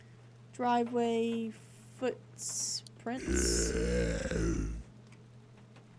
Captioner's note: body Groaning